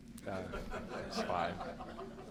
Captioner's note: laughter